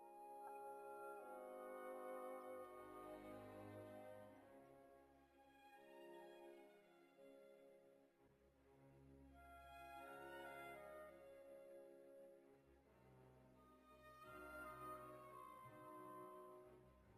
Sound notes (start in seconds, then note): none